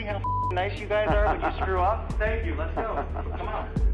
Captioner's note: laughs